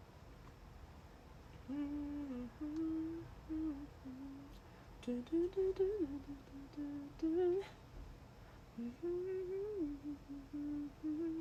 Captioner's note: hums